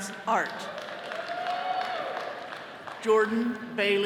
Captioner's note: all cheering